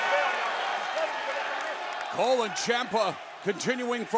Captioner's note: crowd cheering